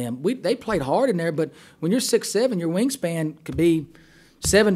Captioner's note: voiceover